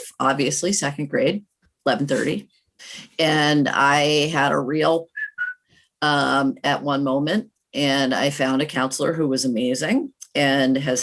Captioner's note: whistle sound